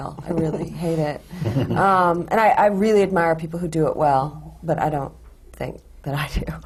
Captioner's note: laughs